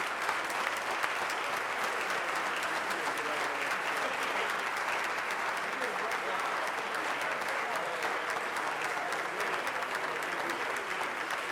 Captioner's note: applause